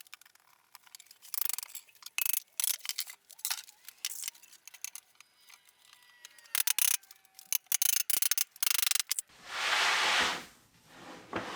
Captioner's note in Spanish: Sonidos acelerados al ensamblar muebles